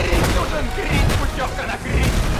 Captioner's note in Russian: Звуки избиения